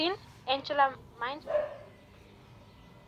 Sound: news cast fades out

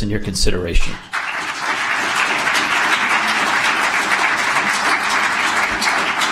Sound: applause

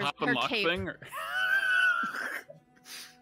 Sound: laughing

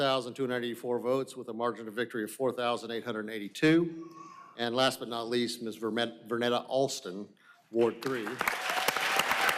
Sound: applause

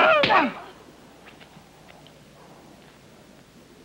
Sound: hit booming

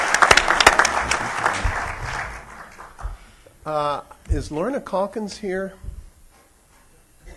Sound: applause

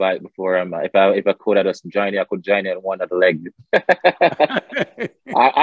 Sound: both laugh

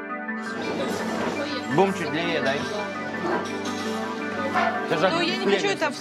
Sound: indistinct chatter

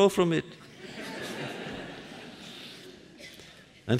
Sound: laughter

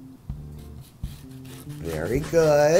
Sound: slicing

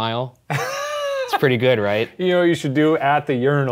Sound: laughs

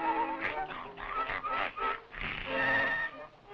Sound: grumbling

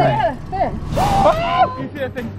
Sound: all screaming

